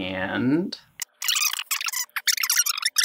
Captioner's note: tape squealing